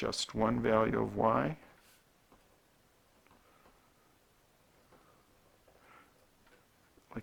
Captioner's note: writing